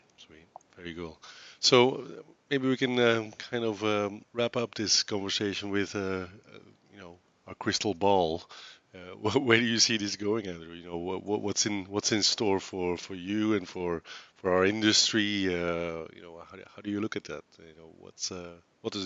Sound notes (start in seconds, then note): 9.1 laughs